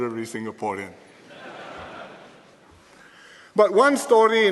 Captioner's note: laughter